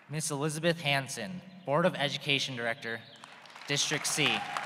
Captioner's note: applause